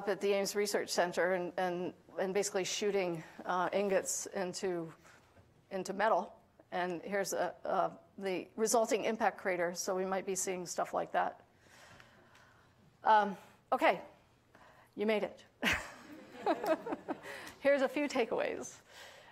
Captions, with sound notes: up at the Ames Research Center and basically shooting ingots into metal. And here's the resulting impact crater, so we might be seeing stuff like that. Okay, you made it [laughing]. [audience laughing] Here's a few takeaways.